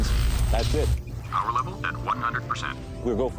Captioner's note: computer voice